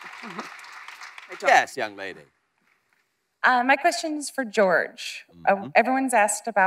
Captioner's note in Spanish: imitando a Jack Sparrow